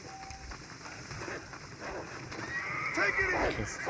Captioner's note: cries of pain; cries of wolves and horse